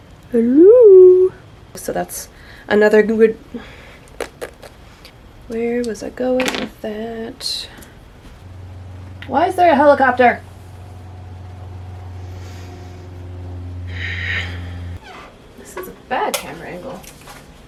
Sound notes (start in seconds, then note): 4.1 tiny mouth raspberries; 5.3 singsong; 14.9 chair squeaks